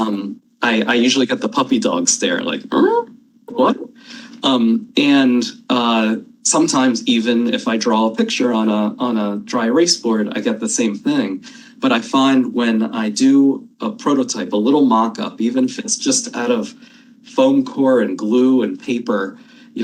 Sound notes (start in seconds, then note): 2.7 imitates dog whining